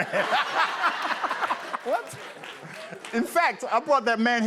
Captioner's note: laughter